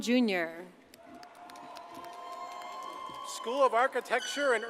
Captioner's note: audience cheers and applauds